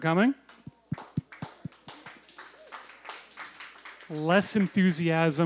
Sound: applause

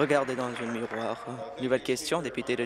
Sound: applause

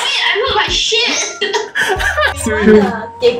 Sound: laughs

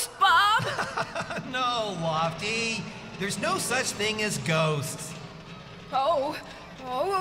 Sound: laughing

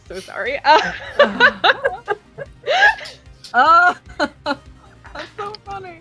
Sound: laughter

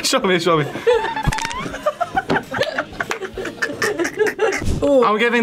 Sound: both laugh

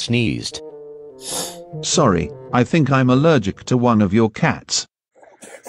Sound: sniff

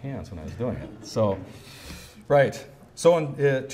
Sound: hisses

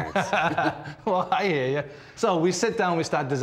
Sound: laughing

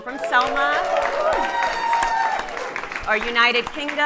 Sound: audience cheering

